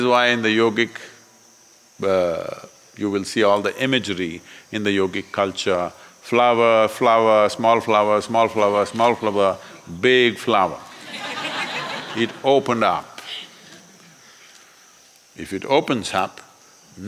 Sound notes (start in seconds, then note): 10.8 laughter